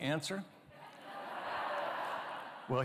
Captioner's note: laughter